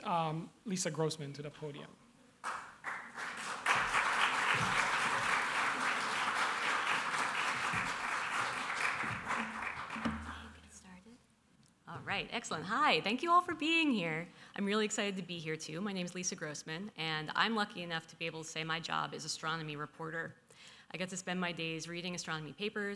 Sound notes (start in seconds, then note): 2.4 applause